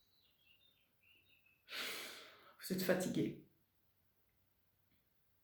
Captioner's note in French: soupir